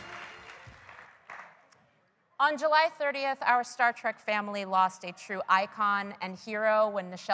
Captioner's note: applause